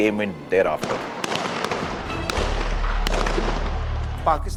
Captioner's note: gun shots